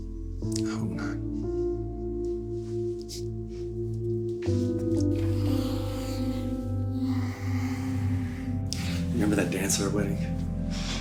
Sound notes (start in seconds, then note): 5.1 Michael sighs